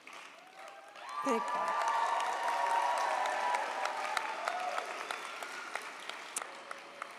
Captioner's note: audience applauds; audience cheers